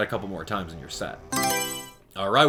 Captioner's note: Mario Selection Sound